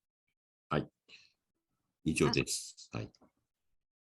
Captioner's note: speak in Japanese